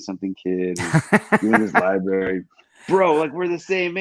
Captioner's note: laughs